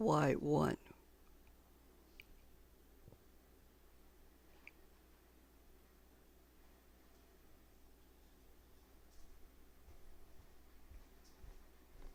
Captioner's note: silence